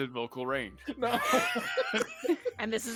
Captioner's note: group laughing